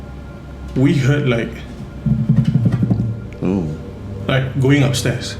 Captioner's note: footsteps